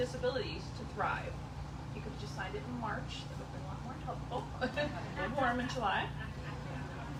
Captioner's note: laughs